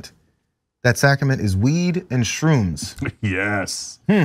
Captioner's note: laugh